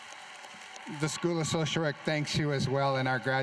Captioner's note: applause